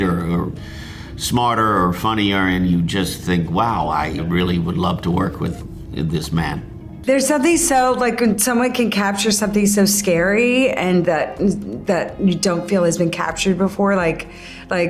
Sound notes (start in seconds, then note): none